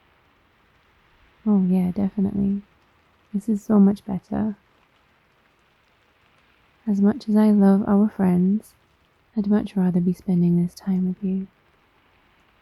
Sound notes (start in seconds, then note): none